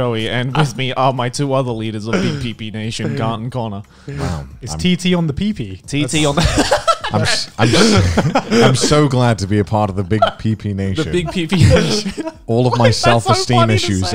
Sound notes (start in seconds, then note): 6.1 men laughing; 6.3 laughs; 10.9 laughs